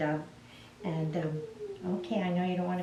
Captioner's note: cat whimpers